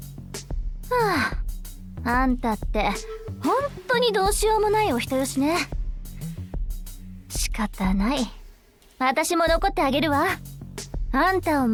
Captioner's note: sigh